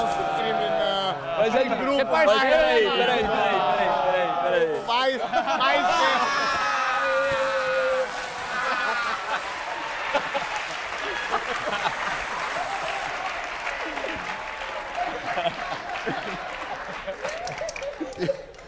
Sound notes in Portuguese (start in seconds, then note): 3.1 risos